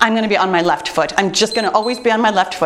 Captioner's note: timer beeps